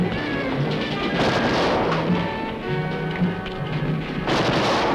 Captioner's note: gunfire